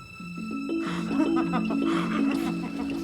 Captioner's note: laughing